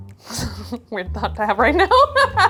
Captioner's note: laughing; chuckling